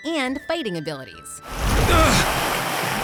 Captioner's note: grunting